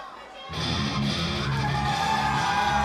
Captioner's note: crowd chatter